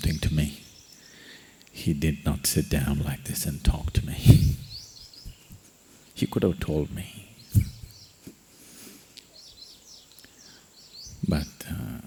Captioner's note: laughs